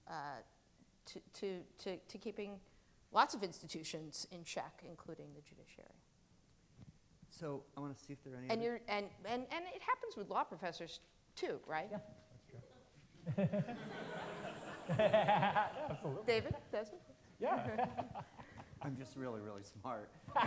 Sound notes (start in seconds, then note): 14.4 laughing; 15.8 audience laughing